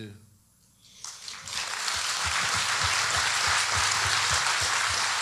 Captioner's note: audience applauding